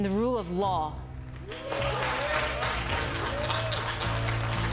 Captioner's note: applause